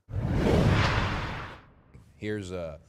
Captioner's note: logo whooshing